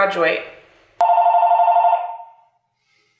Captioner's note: phone rings